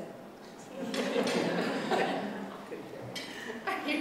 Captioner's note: laughter